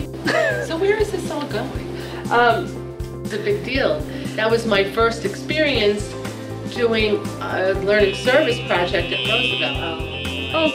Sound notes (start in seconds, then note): 0.2 laughs; 7.9 alarm going off